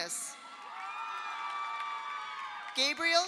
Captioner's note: audience applauds; audience cheers